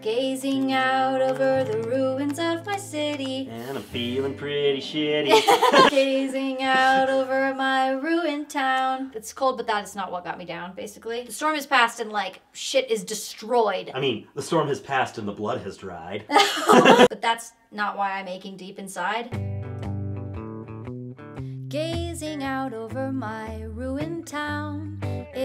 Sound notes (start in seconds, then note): 5.2 both laughing; 16.3 both laughing; 19.3 strumming guitar music